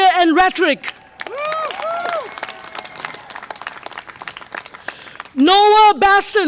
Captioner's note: audience applause and cheer